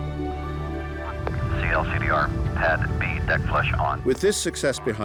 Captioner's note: man over launch radio